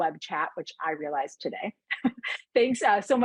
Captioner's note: laughing